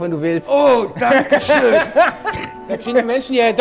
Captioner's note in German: Lachen